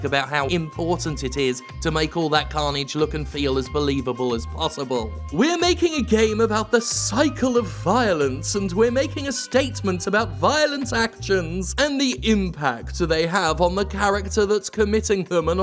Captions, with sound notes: about how important it is to make all that carnage look and feel as believable as possible. (reading voice) "We're making a game about the cycle of violence" "and we're making a statement about violent actions" "and the impact do they have on the character that's committing them"